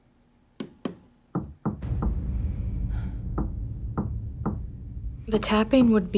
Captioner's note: hammer taps; tapping from behind the wall